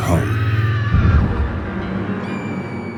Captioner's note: scream